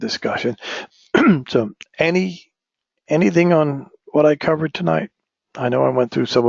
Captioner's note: cough